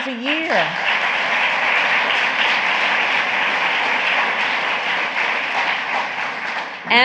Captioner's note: applause